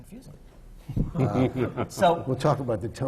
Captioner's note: laughter from the panel